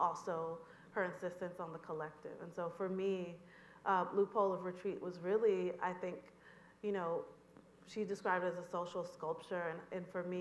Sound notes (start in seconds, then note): none